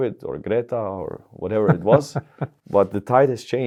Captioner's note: chuckles